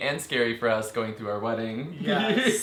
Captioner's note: laughs